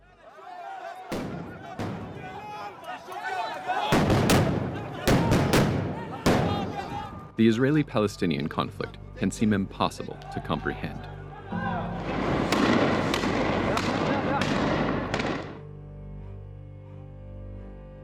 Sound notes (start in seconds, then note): 1.0 crowd yelling and explosions; 12.0 shots firing; 15.2 explosion